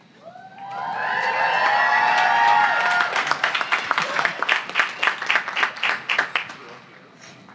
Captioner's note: applause